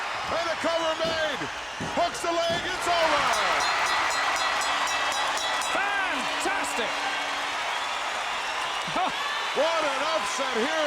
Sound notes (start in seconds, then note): 3.1 bell ringing; 3.9 audience cheering